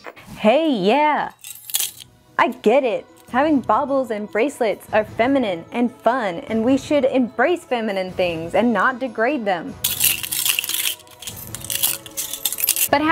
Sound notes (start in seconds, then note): 1.4 clink; 9.8 clanging Jewelry